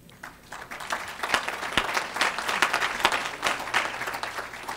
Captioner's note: audience applauds